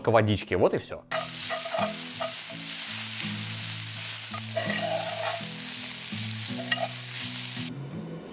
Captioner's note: hissing; more hissing and music